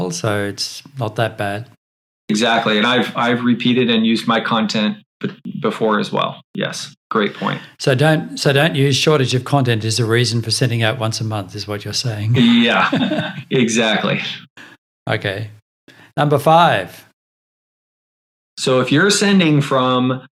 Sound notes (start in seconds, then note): 12.3 laughs